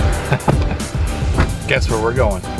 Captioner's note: laughing